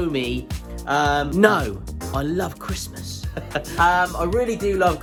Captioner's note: chuckles